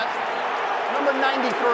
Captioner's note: booing